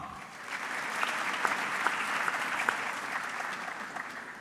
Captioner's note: audience clapping